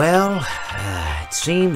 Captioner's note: sigh